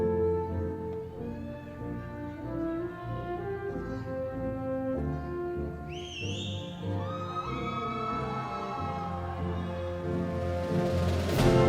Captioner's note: audience applauds